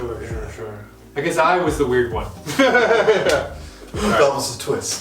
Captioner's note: laughing